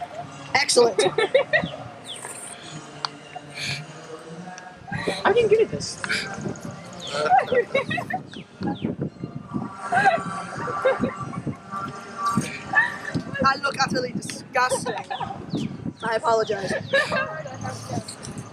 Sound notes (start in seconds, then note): 7.1 more snarfling and giggling